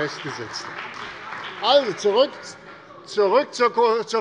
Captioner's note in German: Beifall bei der CDU und dem BÜNDNIS 90/DIE GRÜNEN